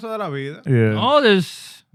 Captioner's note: non-english Speech